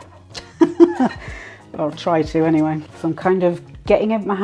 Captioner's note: laughs